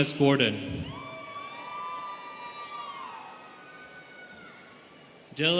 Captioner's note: students cheering